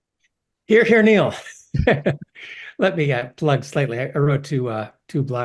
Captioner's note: laugh